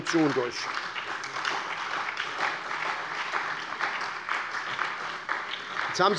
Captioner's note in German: Beifall bei der SPD